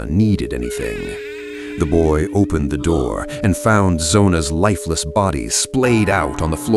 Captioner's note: door creaking, ANDY gasps